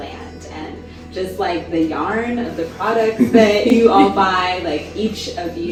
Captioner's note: everyone laughs